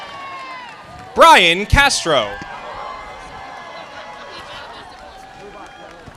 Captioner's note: audience applauding